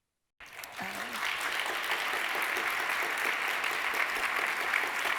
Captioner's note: audience applauding